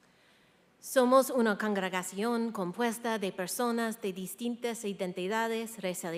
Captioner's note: speaking in foreign language